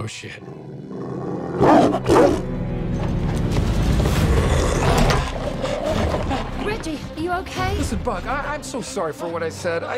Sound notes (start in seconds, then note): 0.7 growls, barks; 4.2 snarling